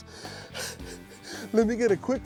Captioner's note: chuckles